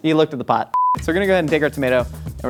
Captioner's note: beep